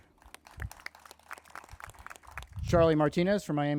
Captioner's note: crowd applauding